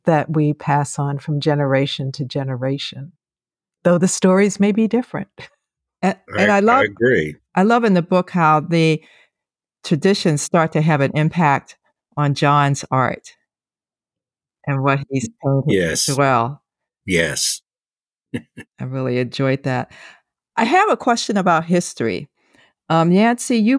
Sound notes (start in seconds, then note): 18.3 laughing